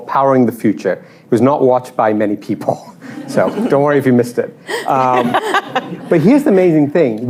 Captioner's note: laughter